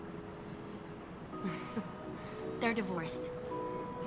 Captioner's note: chuckles